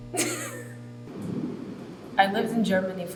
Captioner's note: laughing